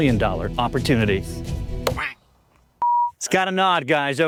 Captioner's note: wood thudding